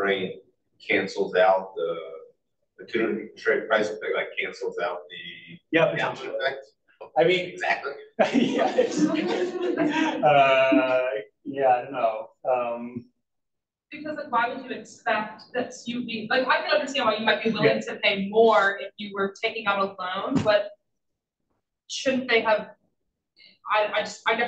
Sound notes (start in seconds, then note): 8.2 all laugh